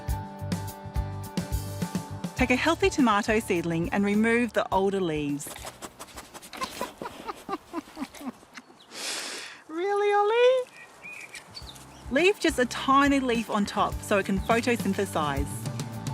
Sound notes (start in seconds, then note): 5.5 dog sniffs; 6.4 laughs